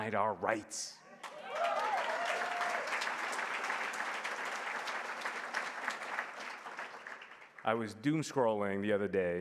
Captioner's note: applause